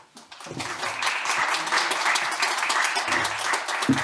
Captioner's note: audience applauding